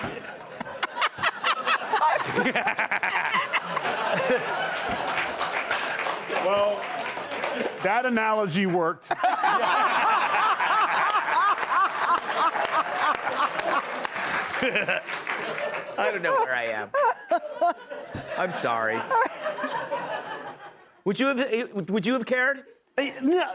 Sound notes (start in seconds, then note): 10.0 laughter; 10.4 applause; 12.5 laughter